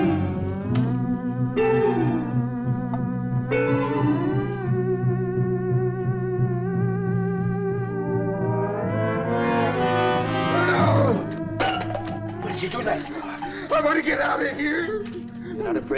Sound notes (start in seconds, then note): 7.5 eerie suspenseful music continues; 11.6 can clatters